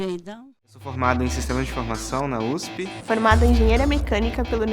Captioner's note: man speaking Portuguese; woman speaking Portuguese